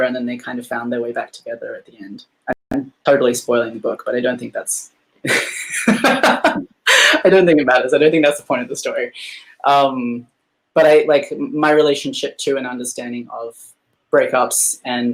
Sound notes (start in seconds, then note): 5.2 laughing